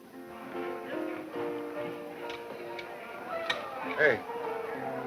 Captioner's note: people chattering